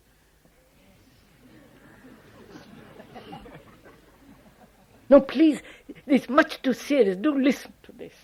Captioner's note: laughter